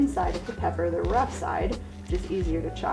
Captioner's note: knife chops